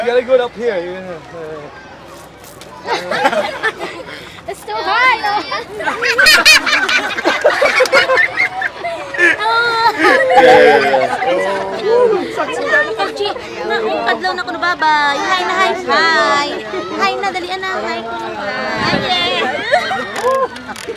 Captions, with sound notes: You got to put it up here (Laughter) It's too high Knowa! (Lots of laughter) Hi!